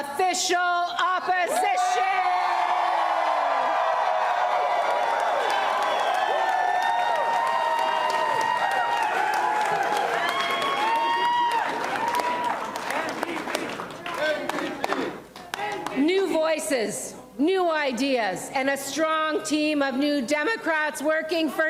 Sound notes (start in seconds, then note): 4.7 applause and cheering